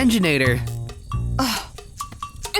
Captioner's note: Anastasia scoffs